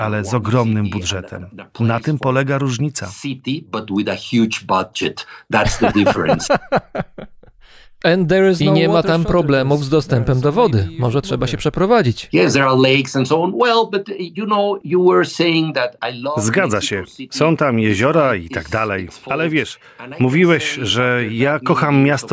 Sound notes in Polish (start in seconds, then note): 5.6 śmiech